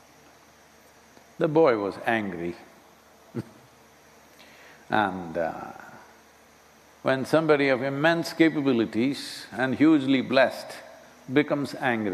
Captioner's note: laughs